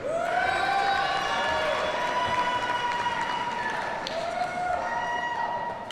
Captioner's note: audience cheers and applauds